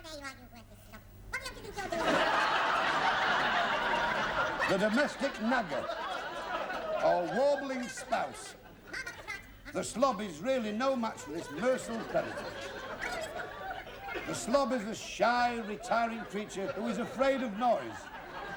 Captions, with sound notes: (SQUEAKY VOICE) There you are, you worthless slob! (LAUGHTER DROWNS DIALOGUE) The domestic nagger. Or warbling spouse. The slob is really no match for this merciless predator. The slob is a shy, retiring creature who is afraid of noise...